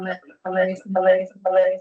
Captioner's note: mic echo